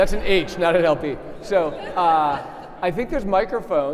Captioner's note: audience laughing; audience laughing